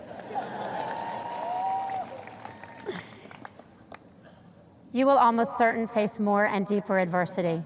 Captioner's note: sparse cheers